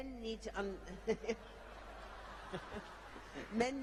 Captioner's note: laughter